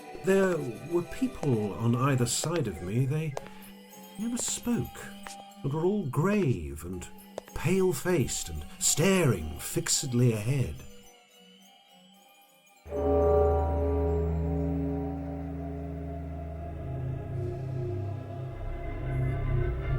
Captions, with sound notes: There were people on either side of me they never spoke. They were all grave and pale-faced and staring fixedly ahead. [Ominous bell] [Scary music]